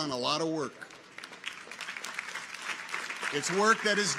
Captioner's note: audience applauds